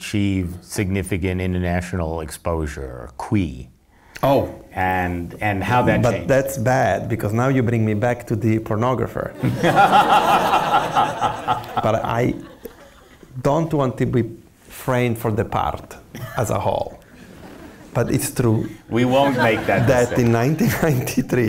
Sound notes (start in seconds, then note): 9.4 laughs